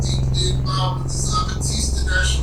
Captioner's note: speaking in foreign language